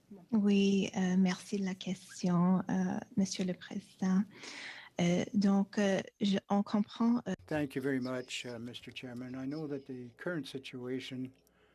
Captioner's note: speaking French